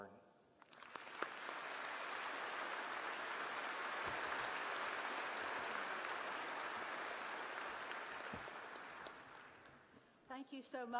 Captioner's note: applause